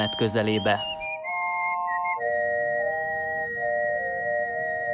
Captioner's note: cool whistling continues